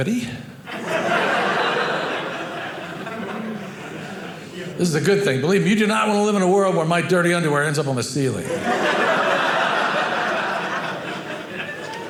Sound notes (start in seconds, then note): 0.6 audience laughing; 8.4 audience laughing